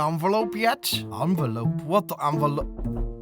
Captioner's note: knock on the door